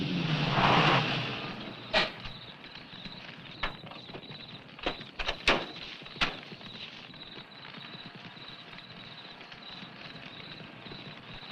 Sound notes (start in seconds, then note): 2.7 fire crackling; 2.7 insects chirping